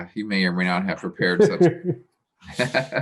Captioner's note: laughing